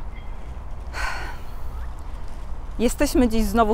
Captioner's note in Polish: westchnięcie